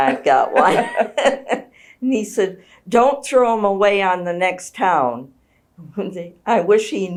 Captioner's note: laughs